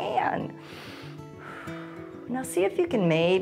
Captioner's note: inhales and exhales